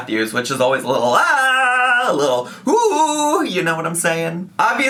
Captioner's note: yells cheerfully